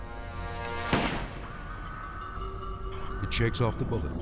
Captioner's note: rifle firing